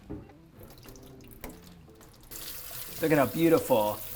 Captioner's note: liquid trickles